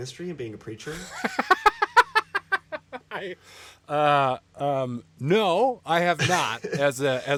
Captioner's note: laughing